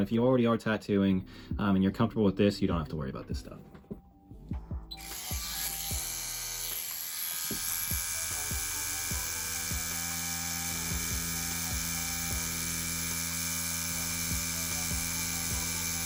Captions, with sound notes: If you already are tattooing and you're comfortable with this, you don't have to worry about this stuff. (tattoo machine buzzing) (light music)